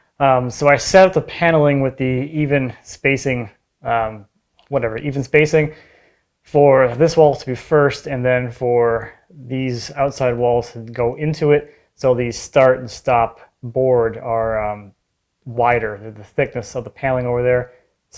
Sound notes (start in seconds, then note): none